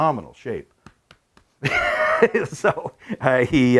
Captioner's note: chuckles